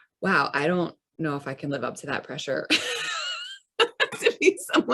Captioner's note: laughs